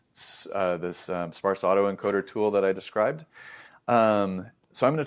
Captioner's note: inhales